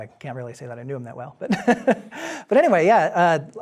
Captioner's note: laughing